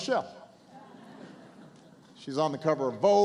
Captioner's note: laughter